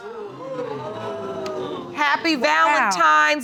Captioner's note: audience gasping